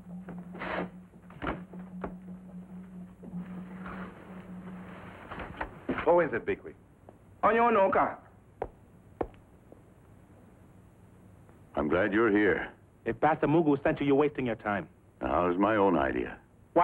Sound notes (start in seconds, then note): 0.1 drapes slide sharply; 1.3 door opens; 2.9 drums beating in the distance; 7.4 speaks in foreign language